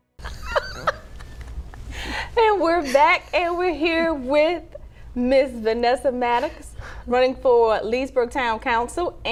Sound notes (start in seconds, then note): 0.3 laughing